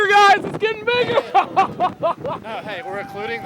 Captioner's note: chuckles